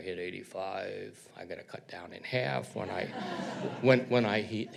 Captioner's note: audience laughs